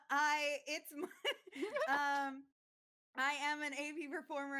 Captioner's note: all laughing